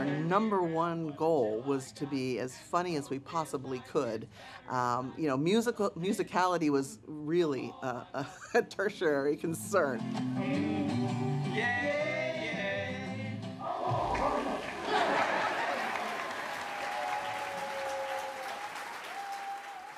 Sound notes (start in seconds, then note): 13.8 congregation clapping